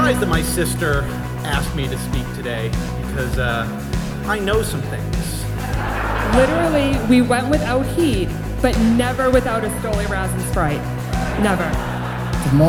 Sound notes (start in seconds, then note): 5.9 guests laugh